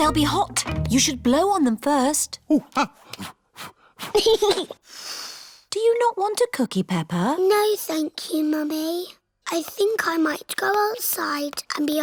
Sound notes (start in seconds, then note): 3.7 blows; 4.0 giggles and blows